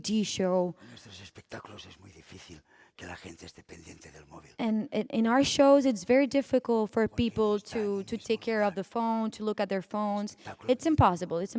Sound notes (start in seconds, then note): 1.4 speaking spanish